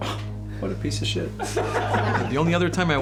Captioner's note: laughter